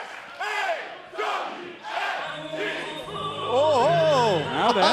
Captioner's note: fans chanting